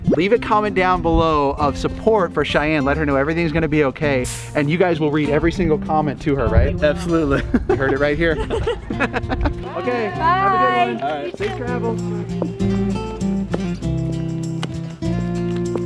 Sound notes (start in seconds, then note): 8.8 laughing; 12.6 soft guitar music